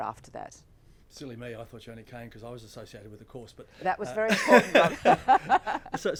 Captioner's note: laughs